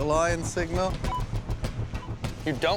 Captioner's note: electronic beep